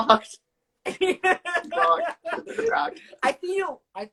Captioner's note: laughs